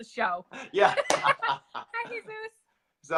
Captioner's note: laughter